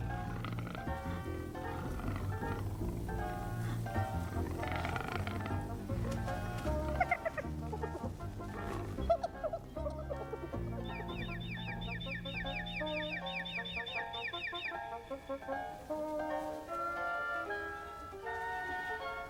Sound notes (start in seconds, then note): 0.0 growling; 9.8 squealing; 13.4 chirping